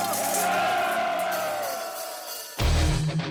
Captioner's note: cheering